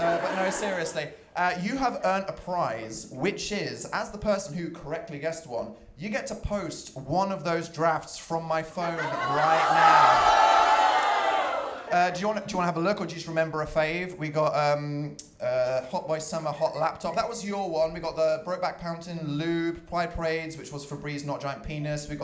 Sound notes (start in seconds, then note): 9.0 audience ohh-ing